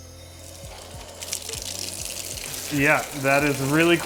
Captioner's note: water flowing